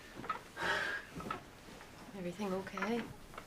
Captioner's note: none